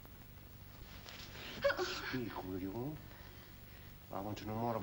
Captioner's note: whimpers